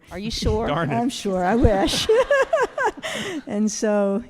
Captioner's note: all laughing